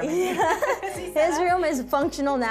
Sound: laughs

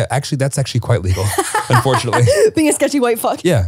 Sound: laughs

